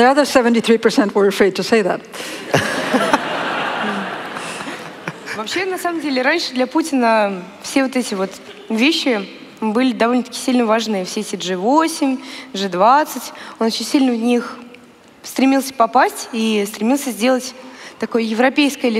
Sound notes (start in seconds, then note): 2.4 laughter; 5.6 foreign Language